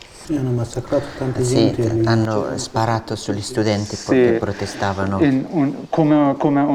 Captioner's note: chatter